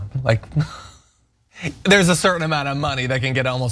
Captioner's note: laugh